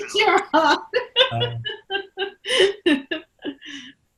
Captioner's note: laughing